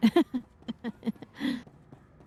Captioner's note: laughs